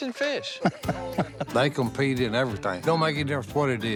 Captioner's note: laughs